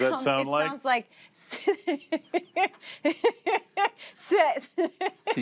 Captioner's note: mimics james laughing